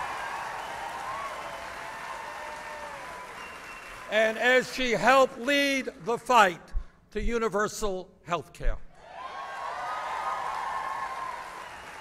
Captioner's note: applause